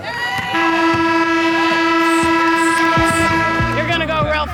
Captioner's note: buzzer